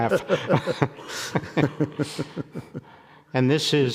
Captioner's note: people laughing